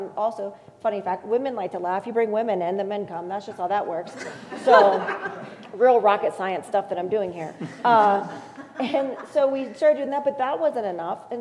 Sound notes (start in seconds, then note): 4.1 laugh